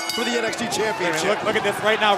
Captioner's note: bell